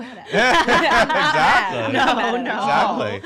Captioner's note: laughs